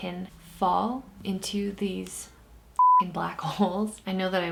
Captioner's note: beep